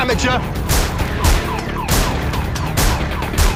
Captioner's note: gunshots